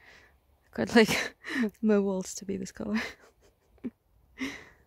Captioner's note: laughs